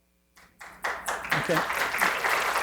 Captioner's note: audience applauding